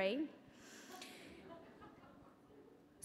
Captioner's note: chuckling